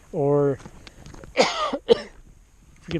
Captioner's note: coughs